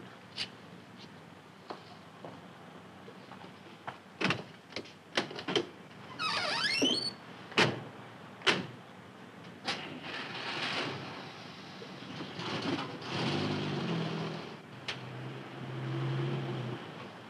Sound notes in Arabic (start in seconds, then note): 12.2 تغلق الأبواب، ويبدأ تشغيل المحرك